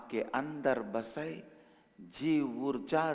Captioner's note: hindi